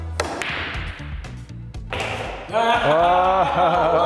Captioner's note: balls cracking; both laughing